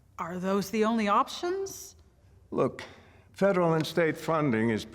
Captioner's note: none